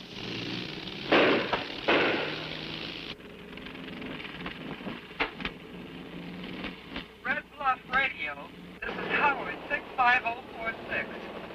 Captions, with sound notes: [engine clanking] Red Bluff radio, this is Howard 65046,